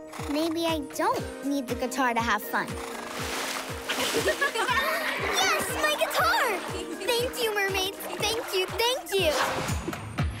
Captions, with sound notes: Maybe I don't need the guitar to have fun… [splashing] [laughing] Yes! My guitar! Thank you, mermaids. Thank you, thank you! [whooshing]